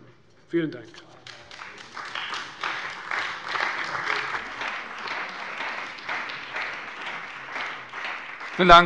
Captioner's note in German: Beifall bei der CDU und dem BÜNDNIS 90/DIE GRÜNEN